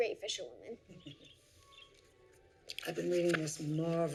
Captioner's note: Violet chuckles